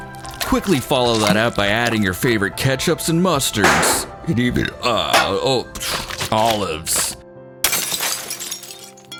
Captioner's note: scoffs